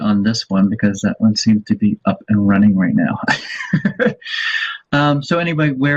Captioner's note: laughs